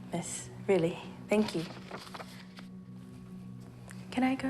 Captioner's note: paper rustles